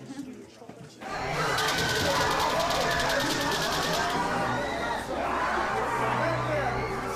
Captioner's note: screaming